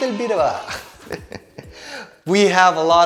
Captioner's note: chuckles